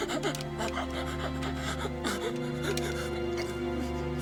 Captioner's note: Ned gasping